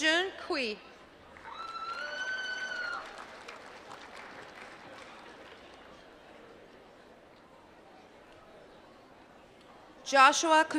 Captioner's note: applause